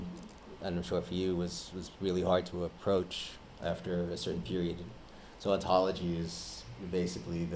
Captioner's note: none